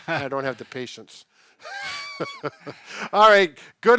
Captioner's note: laughing